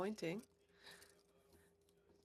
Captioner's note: speaking in French